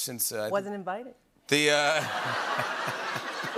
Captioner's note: laughter